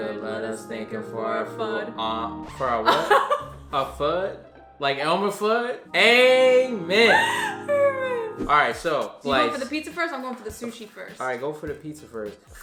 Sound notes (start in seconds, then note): 2.7 laughing; 7.0 laughs